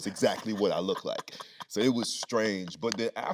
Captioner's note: Anthony laughing